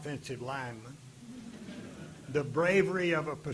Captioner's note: audience laughing